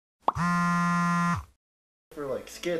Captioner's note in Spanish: teléfono vibrando